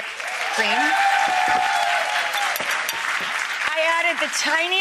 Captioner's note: audience cheering